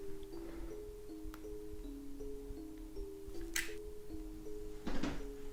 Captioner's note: button clicks